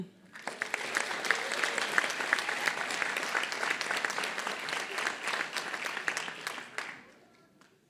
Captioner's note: applause